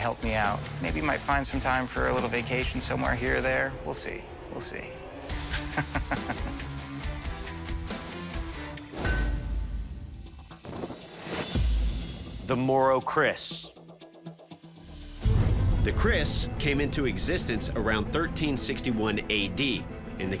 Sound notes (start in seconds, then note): 5.5 laughter; 9.0 clang